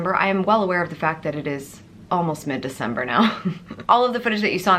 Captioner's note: chuckles